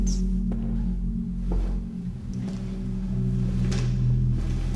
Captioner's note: footsteps echoing